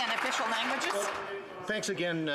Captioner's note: some applause